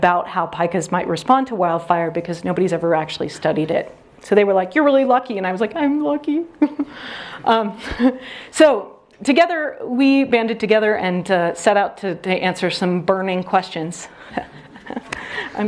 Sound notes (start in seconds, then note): 6.5 tearful; 7.3 audience laughs; 14.3 audience laughs